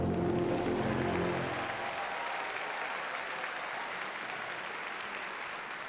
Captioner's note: audience cheers and applauds